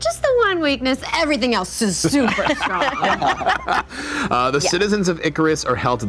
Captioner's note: group laughter